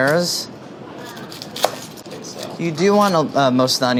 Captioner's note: chopping